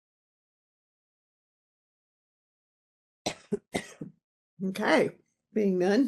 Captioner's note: coughing